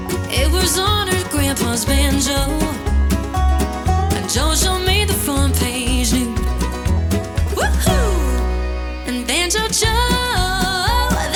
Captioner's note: woo-Hoo!